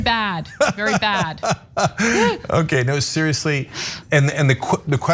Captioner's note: laugh